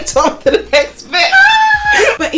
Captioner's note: laughs